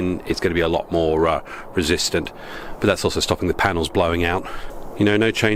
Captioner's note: wind